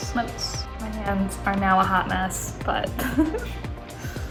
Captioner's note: laughing